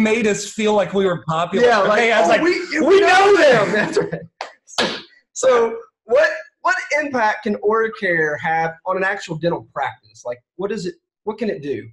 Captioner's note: laughter